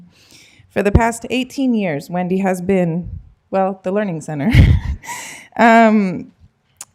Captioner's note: laughter